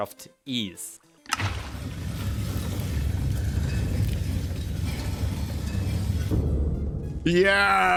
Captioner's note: stone door grinding